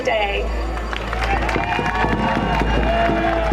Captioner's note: applause